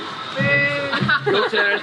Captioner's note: laughing